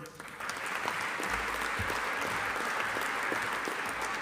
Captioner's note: audience applauding